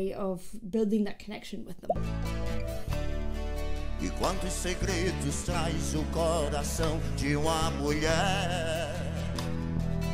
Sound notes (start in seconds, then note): 1.7 audio pops; 2.0 gentle music; 4.3 sings in Portuguese